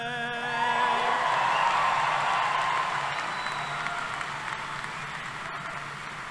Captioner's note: cheering